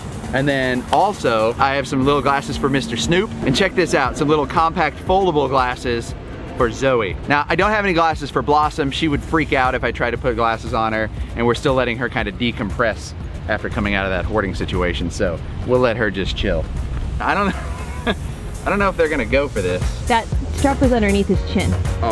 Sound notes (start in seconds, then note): 17.4 laughs